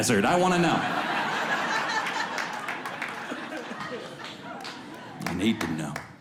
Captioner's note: audience laughs